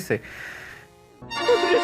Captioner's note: breathing intensifies